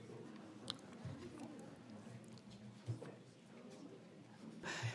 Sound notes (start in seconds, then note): 0.0 audience chattering